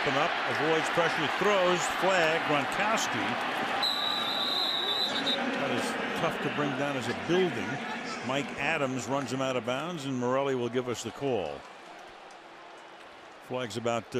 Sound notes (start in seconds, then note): 3.8 whistle